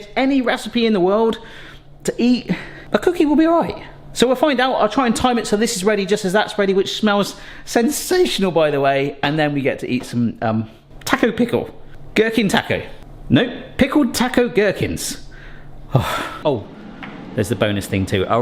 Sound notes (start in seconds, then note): 15.9 sighs